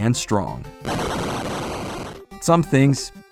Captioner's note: boom!!